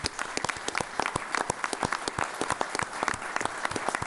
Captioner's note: all applauding